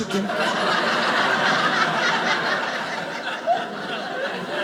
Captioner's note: audience laughing